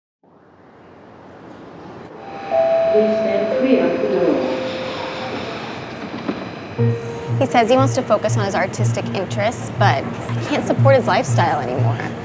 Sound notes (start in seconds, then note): 2.3 doorbell